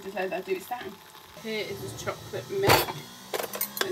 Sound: coffee machine still whirling

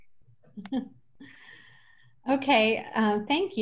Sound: person laughs

